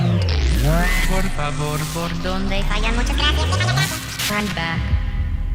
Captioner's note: spanish gibberish